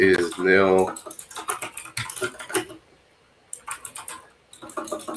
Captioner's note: keyboard clacks